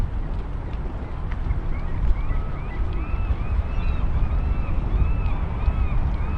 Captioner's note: seagulls and calm water lapping